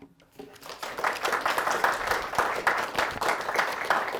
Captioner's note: audience applauding